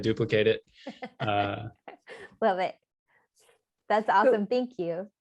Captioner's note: laughter